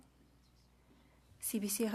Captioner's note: speaking French